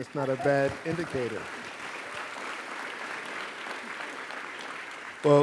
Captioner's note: applause